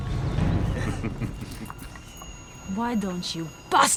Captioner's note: men chuckle